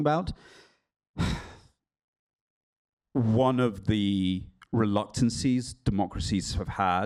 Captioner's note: sighs